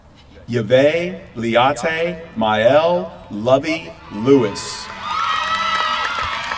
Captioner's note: applause